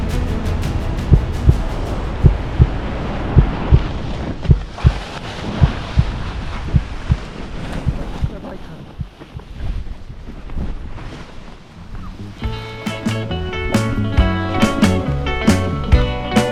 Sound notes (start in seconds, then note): 0.0 wind whooshing; 1.2 heart beating